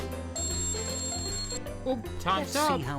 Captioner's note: timer ringing